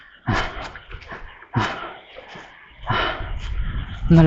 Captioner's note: panting